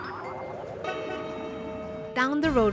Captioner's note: horn honks